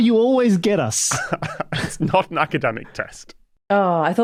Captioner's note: chuckles